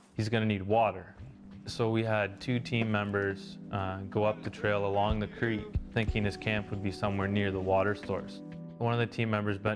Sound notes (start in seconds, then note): 0.0 voiceover; 3.9 voiceover